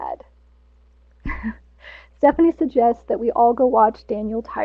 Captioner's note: chuckles